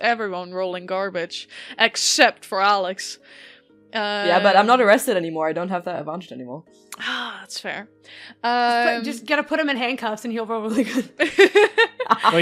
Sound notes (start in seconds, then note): 7.2 sighs; 11.1 laughter